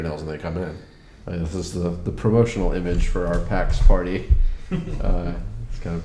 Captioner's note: chuckles